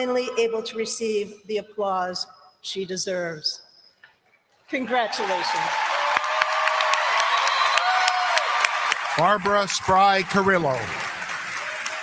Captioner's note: applause